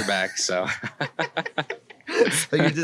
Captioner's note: laughing; laughs